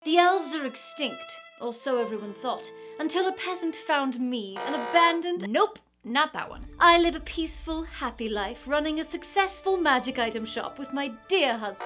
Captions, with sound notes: - The elves are extinct. Or so everyone thought, until a peasant found me, an abandoned... (buzzer) - Nope, not that one. - I live a peaceful, happy life running a successful magic item shop with my dear husband...